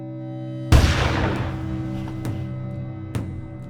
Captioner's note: gunshot booming; intense drum music